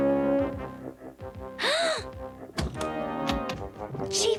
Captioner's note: gasps